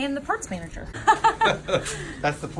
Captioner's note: laughs